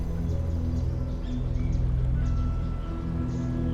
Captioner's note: birds chirp